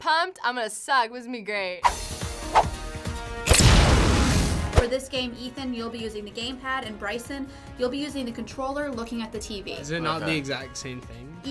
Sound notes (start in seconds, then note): 1.7 adventure music; 3.5 flames burst